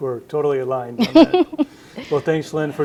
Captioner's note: laughs